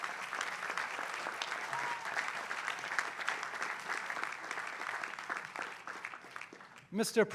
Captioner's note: applause